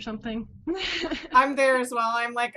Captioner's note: laughs